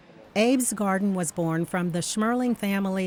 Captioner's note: voiceover